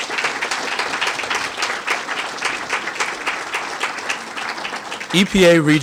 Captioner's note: applause